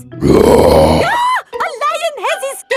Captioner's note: roars; screams